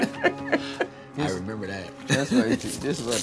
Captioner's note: both laughing; laughs